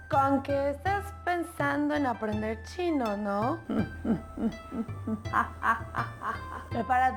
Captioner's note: evil laugh